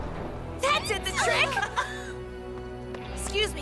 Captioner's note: all chuckle